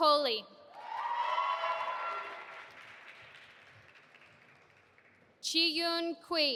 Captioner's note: audience applauding and cheering